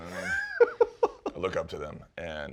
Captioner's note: laughs